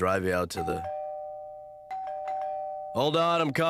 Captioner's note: doorbell ringing